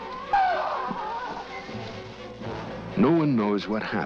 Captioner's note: Joe screaming